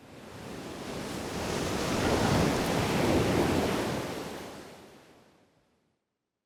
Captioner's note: waves splashing